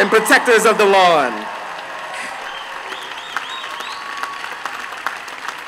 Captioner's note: applause